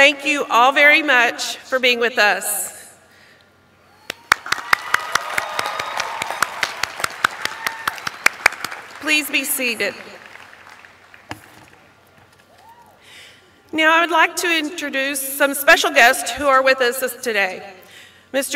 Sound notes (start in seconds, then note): 4.0 applause